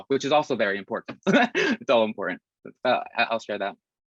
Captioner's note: Risas